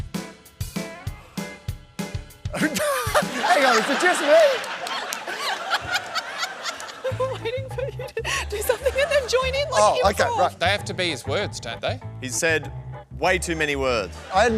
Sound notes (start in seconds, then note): 2.5 laughs; 4.8 laughter